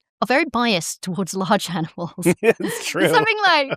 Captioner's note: laughter